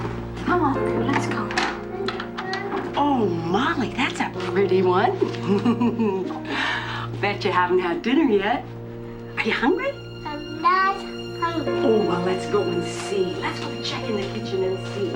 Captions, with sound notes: Come on, let's go. Oh, Molly, that's a pretty one. (LAUGHING) Bet you haven't had dinner yet. Are you hungry? I am not hungry. Oh, let's go and see. Let's go and check in the kitchen and see.